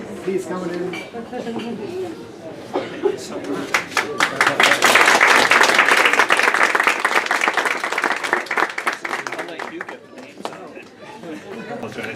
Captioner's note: applause